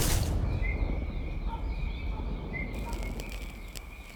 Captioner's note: chirping